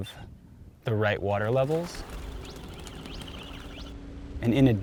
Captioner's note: birds chirping and flapping their wings